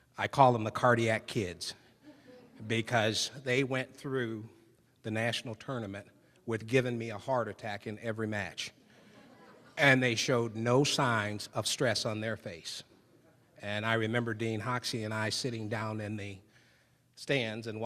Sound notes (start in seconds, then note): 2.0 audience laughing; 8.9 audience laughing